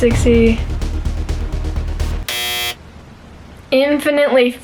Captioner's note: up beat music; buzzer